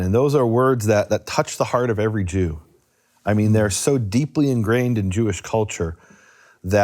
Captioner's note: none